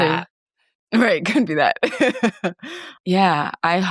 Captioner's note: laughing